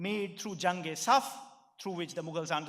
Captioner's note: speaking in foreign language